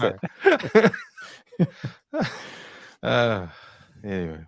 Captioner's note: laughter